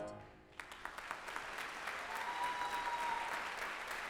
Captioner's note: audience applauding